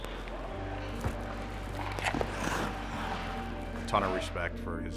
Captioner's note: ice crunches